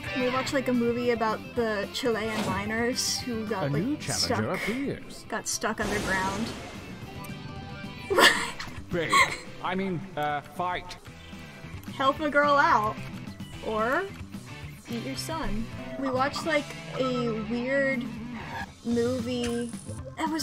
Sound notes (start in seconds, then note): 8.1 laughs